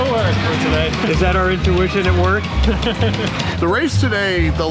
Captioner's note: laughs